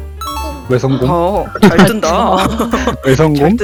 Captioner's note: gasp